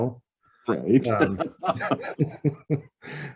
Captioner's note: laughs